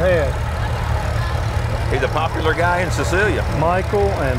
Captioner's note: revving continues